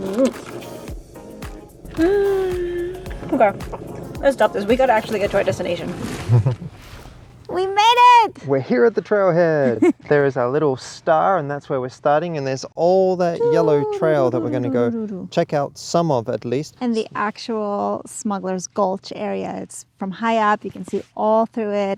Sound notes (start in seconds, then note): 1.9 sighs happily; 9.6 chuckles